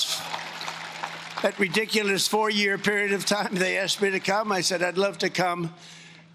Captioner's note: cheering and Applause